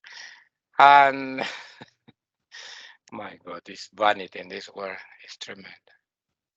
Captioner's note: laughing